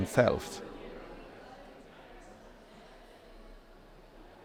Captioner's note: crowd chatters